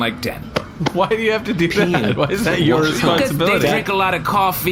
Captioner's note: laughing